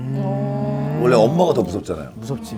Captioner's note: haha